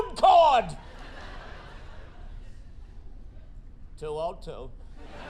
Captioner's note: audience laughing